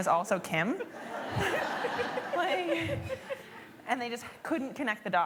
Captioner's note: laughter